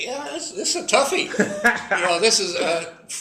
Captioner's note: laugh